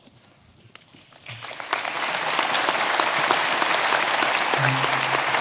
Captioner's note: audience applauding